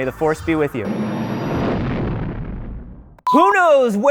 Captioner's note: engines roaring